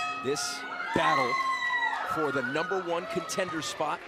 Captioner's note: bell ringing